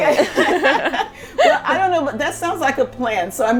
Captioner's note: laughter